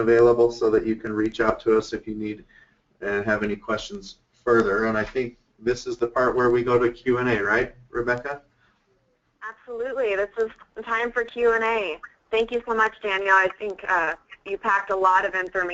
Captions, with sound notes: so that you can reach out to us, if you need and have any questions further. And I think this is the part where we go to Q and A. Right, Rebekah? - [Voiceover] Absolutely. This is time for Q and A. Thank you so much, Daniel. I think you packed a lot of information